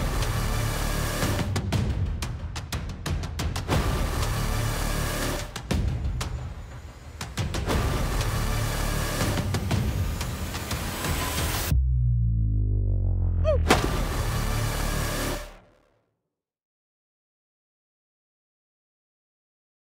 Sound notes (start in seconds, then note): 13.4 host exclaiming; 13.6 gun firing